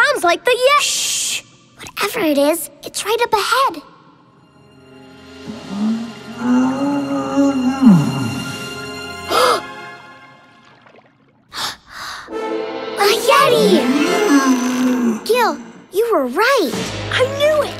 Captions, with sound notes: Shh, whatever it is, it's right up ahead! [groaning] [gasps] [gasps] A yeti! -Gil, you were right! -I knew it!